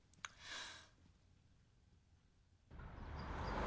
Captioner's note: sighs